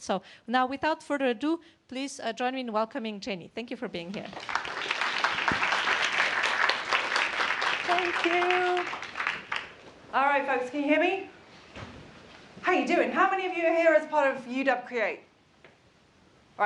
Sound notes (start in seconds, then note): 4.2 applause